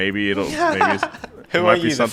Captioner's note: laughing